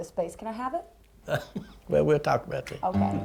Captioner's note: chuckles